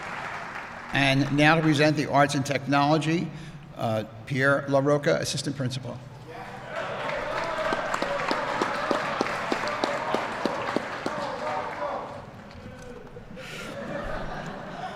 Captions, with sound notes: And now to present the Arts and Technology, Pierre LaRocco, assistant principal. (Applause)